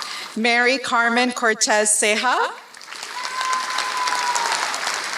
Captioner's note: applause